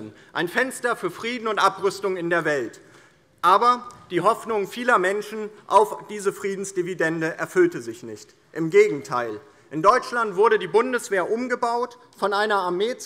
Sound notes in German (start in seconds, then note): none